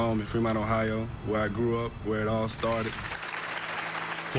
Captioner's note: applause